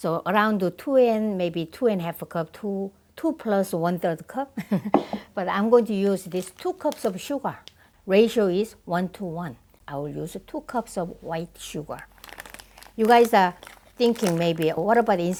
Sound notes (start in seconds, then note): 4.8 laugh